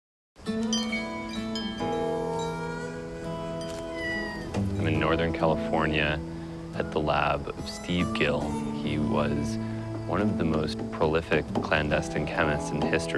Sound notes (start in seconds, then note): 2.0 meows